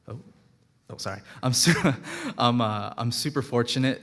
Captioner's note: laughing